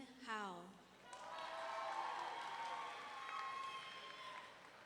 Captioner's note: audience cheering